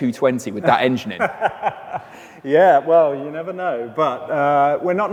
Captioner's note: laughs